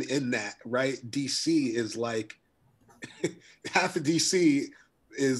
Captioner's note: chuckles